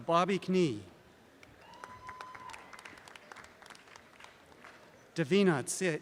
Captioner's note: audience applause